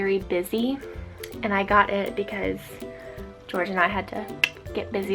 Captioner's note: insinuating click